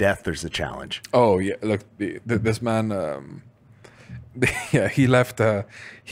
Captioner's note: laughs